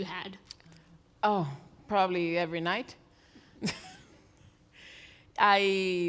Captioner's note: laughs